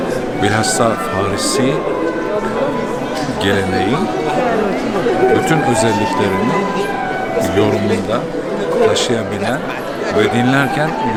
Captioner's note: Farsi